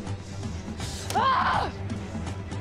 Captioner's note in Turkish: Bağırma Sesi